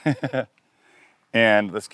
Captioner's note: presenter laughing